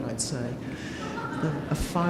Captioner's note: audience laughing